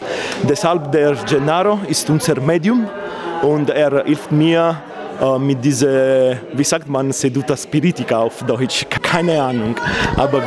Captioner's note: says it in italian